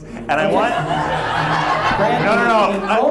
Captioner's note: audience laughs